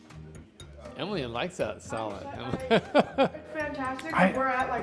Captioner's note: laughs